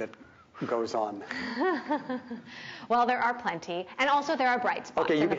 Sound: laughs

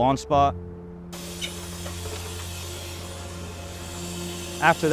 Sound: sound Effects

